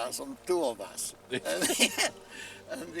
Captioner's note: man laughs